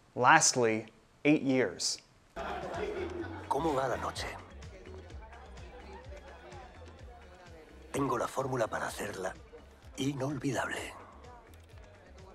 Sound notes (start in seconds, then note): 2.4 indistinct crowd noise; 3.9 speaking foreign language; 3.9 upbeat music